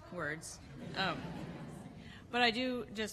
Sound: laughter

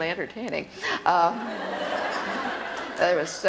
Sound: laughter

